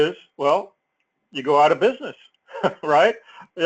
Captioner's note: laugh